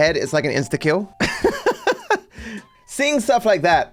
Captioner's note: laughs